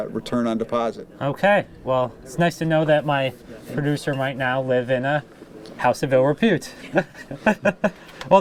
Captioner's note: laughter